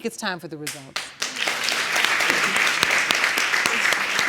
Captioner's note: audience applauds